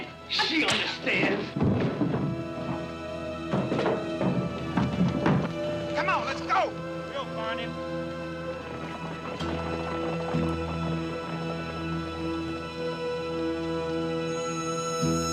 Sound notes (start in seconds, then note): 10.6 horses galloping away